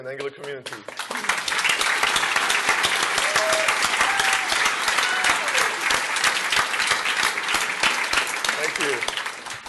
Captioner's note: applause